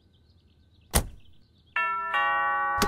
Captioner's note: Car door closes; Doorbell ringing